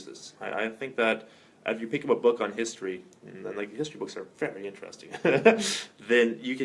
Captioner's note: laughter